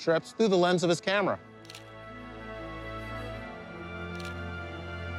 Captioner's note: camera shutter clicking